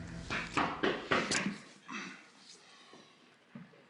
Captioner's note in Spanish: Toques en la puerta